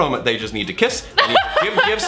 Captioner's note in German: kichert